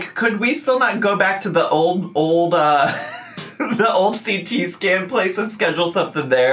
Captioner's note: laughing